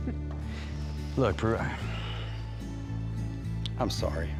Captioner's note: sighs